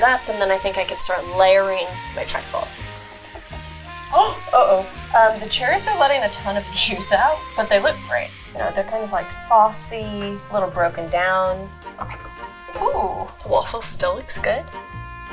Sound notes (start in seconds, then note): 3.2 waffle iron sizzling; 4.1 gasps; 15.1 upbeat music